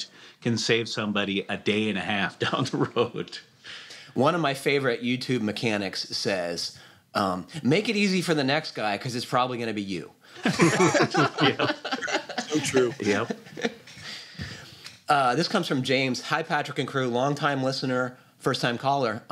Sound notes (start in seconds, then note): 10.4 laughter